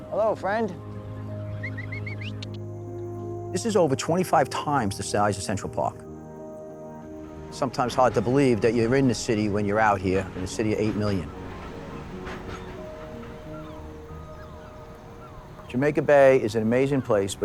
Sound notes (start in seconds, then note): 1.2 otter chirping; 1.9 peaceful music; 6.5 peaceful music; 11.9 birds chirping; 11.9 peaceful music